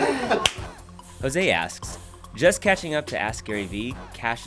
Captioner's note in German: Voice-over